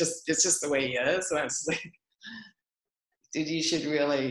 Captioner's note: laughs